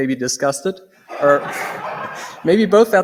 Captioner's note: laughter